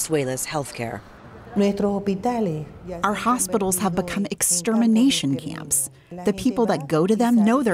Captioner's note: through translator